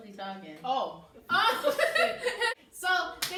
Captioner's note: laugh